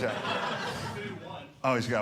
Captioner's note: audience laughing